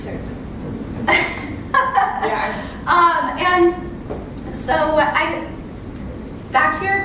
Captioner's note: laugh